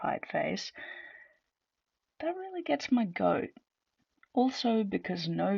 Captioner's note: large intake of breath